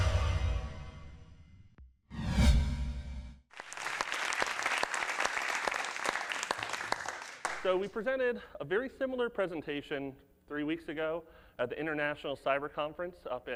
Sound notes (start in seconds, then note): 3.5 audience claps